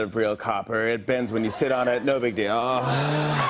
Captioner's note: sighs; cheers and applause